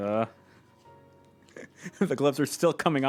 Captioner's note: laughing